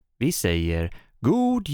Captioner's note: in Swedish